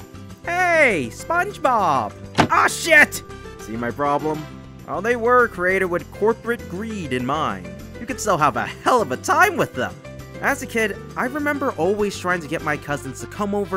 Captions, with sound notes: Hey SpongeBob! *Shutting sound* Aw shit! See my problem? While they were created with corporate greed in mind. You could still have a hell of a time with them. As a kid. I remember always trying to get my cousins to come over